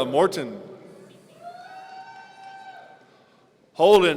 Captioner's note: audience cheering